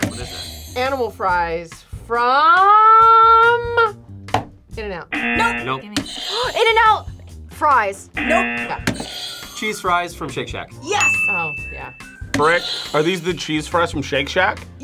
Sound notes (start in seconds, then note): 0.2 buzzer rings; 5.1 buzzer; 6.0 gasps; 8.1 buzzer rings; 8.2 buzzer; 12.0 buzzer rings